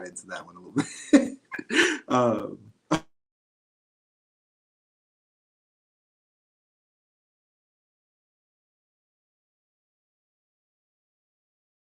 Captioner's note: laughter